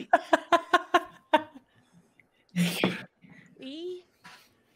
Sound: laughs

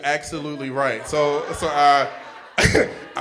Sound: audience laughing

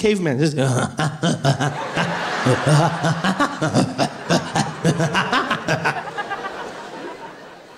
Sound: sound of a caveman

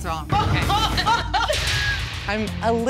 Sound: laughter

